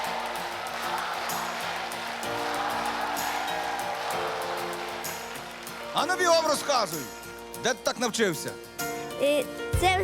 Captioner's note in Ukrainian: оплески